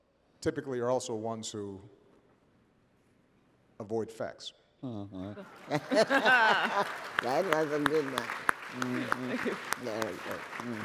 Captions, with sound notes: typically are also ones who avoid facts. (Machel laughs) (applause)